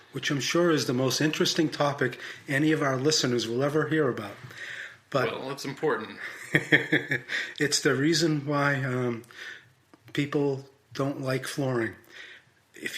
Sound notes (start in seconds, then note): 6.0 laughs